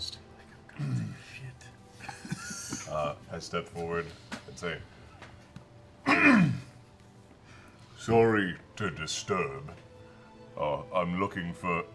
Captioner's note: coughs